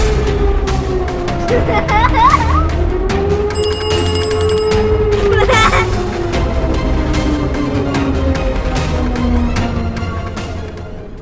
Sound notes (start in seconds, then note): 0.3 dramatic music; 1.4 child laughs; 3.5 bell dings; 5.1 child laughs; 6.9 dramatic music continues